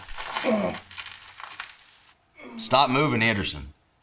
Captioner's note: Anderson groaning